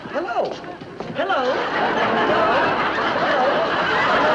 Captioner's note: audience laughing